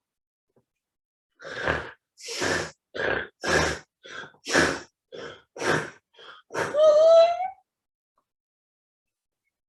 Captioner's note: crying